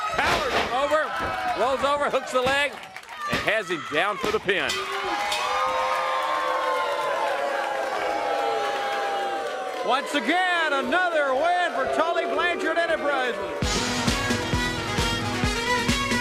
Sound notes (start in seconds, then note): 4.0 bell ringing; 5.8 crowd cheering